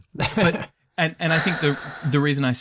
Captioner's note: laughs